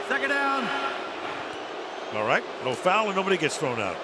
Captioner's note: booing